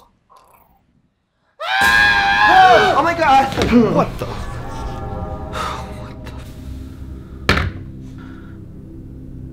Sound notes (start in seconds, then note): 1.6 screaming in terror; 5.8 sigh